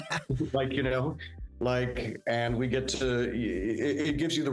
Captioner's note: laughing